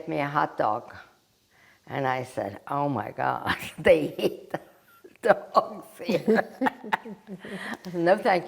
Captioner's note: laughing